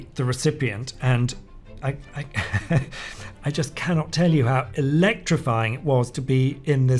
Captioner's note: laughs